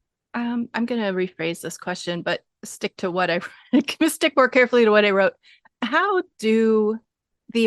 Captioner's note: laughing